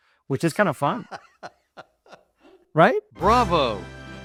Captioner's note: laughs